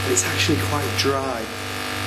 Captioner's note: none